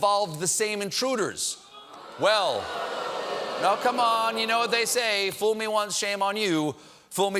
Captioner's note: audience reacts